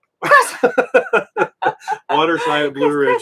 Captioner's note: both laughing